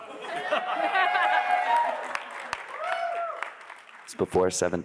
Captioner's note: attendees laughing; attendees cheer and clap